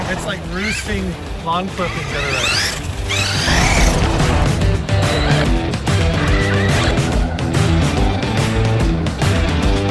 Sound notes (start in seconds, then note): 2.7 RC car whirring; 2.7 upbeat rock music